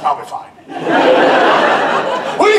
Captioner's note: audience laughter